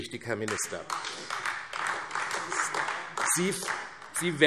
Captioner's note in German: Beifall AfD